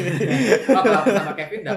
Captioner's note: laughter